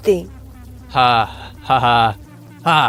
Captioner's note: sarcastic